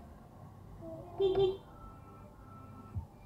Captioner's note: beep beep